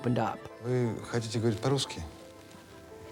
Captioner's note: foreign language